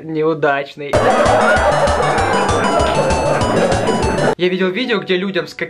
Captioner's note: laugh